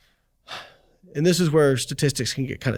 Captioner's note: sighs